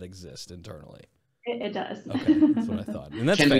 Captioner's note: laughs